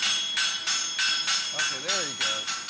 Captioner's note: rhythmic clanking